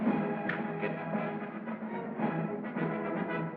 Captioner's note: snaps Fingers